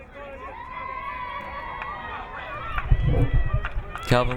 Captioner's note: crowd cheering